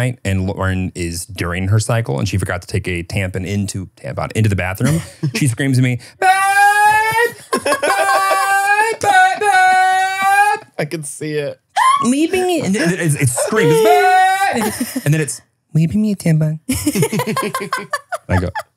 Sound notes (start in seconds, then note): 6.8 laugh; 16.7 laugh